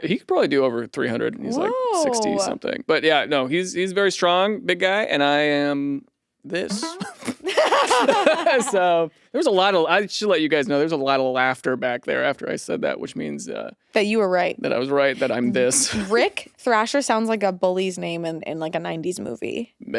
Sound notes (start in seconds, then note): 6.6 laughs